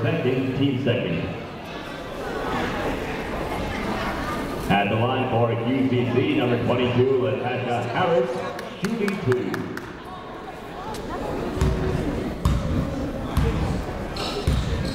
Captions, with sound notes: Her second, team's second. At the line for QCC, number 22, Latasha Harris, shooting two. (people talking in the crowd)